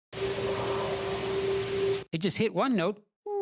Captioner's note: howl